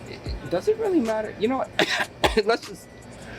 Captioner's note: cough